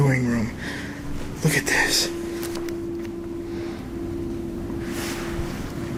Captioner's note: footsteps